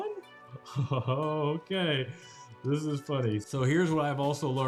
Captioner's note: chuckles